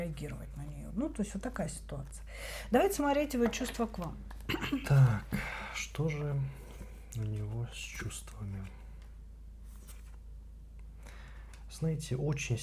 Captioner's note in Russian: вздыхает